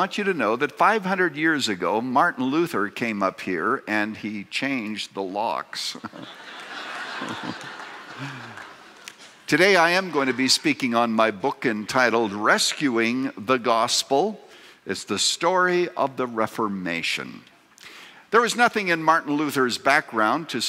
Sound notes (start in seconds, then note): 5.9 laughter